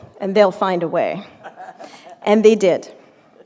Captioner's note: laughter